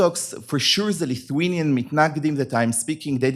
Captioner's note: hebrew